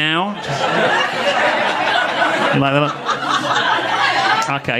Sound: audience laughing

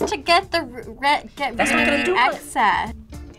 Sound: buzzer rings

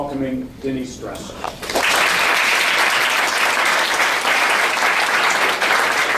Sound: applause

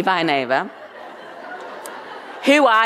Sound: audience laughing

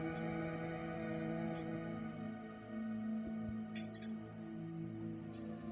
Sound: chanting

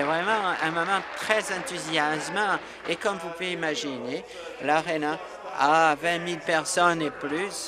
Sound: applause

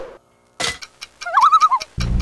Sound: loon call

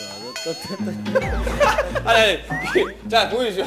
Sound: chuckles suddenly

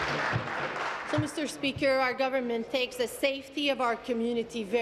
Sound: applause

